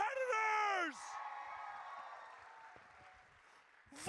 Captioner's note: audience cheers